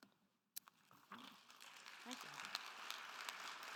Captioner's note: attendees applauding